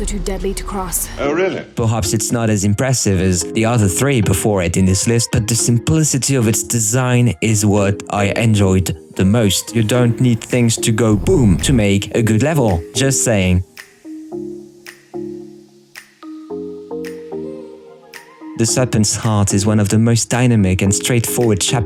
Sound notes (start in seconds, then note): 11.1 boom